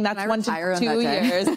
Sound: laughs

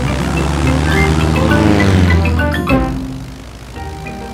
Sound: plane engine revving

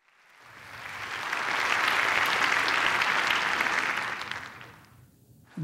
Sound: congregation applauding

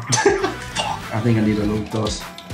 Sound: laughing

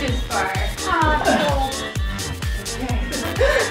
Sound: laughs

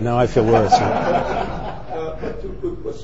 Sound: audience laughing

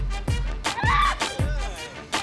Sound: screaming

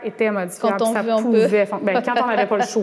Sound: laughs

